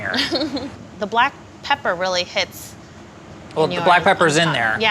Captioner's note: laughs